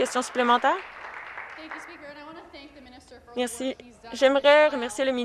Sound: some applause

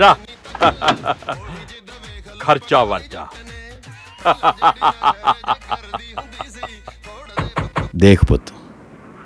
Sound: music+laughter

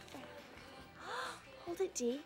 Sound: gassp

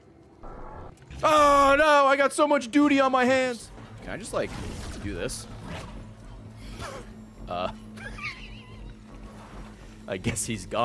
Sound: laughs

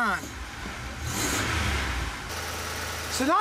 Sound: engine revving

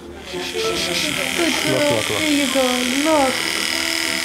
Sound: buzz

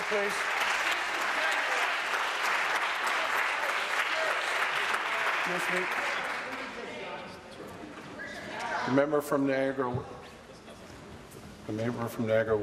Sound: applause

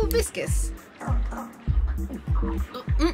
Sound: drinks

